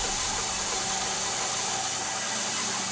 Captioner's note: info whooshes; saw continues buzzing